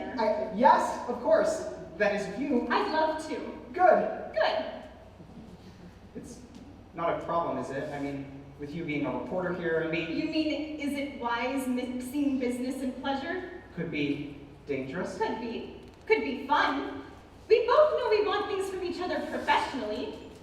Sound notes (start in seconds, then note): none